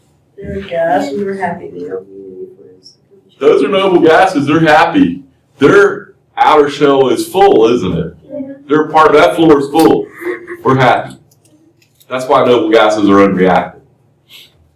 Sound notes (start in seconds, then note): 10.1 laughter